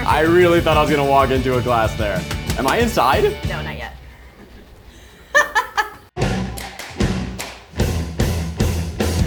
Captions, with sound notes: I really thought I was gonna walk into a glass there. (window tapping) Am I inside? - No, not yet. (laughs) (upbeat music)